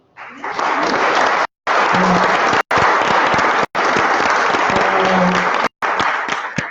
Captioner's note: applause